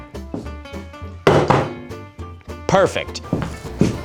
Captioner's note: water bottle smacking table